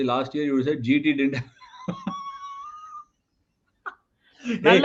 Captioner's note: laughs